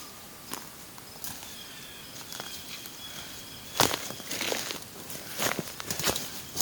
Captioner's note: forest sounds, bird calls